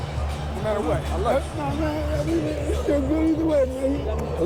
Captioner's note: voice breaking